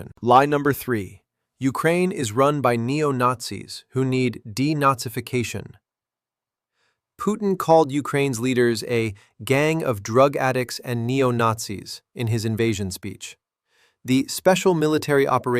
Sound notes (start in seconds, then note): 4.9 sarcastic